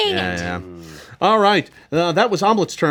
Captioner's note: group moans